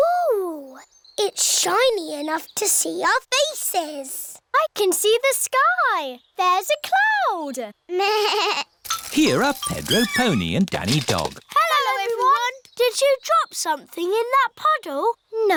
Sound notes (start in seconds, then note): 8.4 bleats